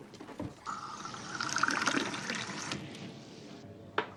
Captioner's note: beer trickling